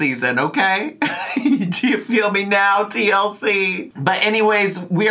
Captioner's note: laughing